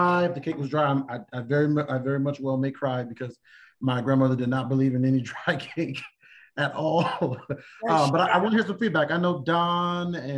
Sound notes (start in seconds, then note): 6.9 laughter